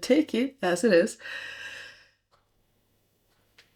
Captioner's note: deep breath